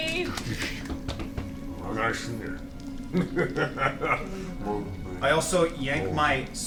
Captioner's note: deep grumbling and laughter